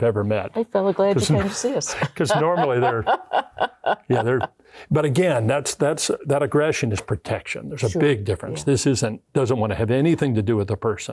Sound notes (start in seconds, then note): 2.8 laughing